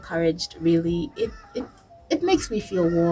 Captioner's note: birds chirping